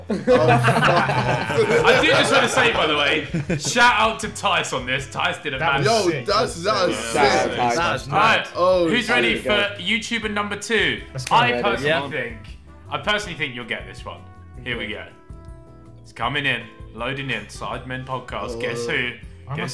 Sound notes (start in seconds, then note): 1.7 laughing